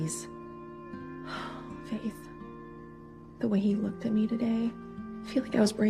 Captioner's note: sighs